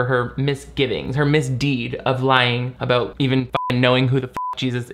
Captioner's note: beep